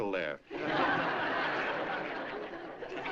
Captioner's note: laughter